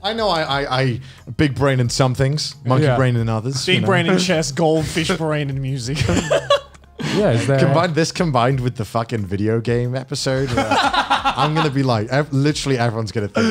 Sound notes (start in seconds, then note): 6.0 laughs